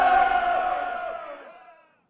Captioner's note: congress fades; cheers are heard